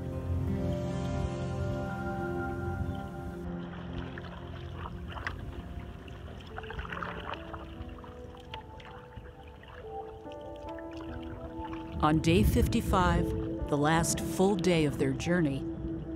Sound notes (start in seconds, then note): 0.3 tranquil music; 4.8 water splashing